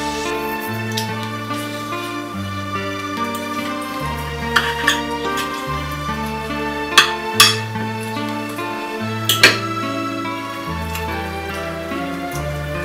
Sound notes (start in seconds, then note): 3.5 somber reed music; 4.5 utensils clattering